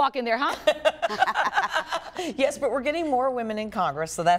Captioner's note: laughter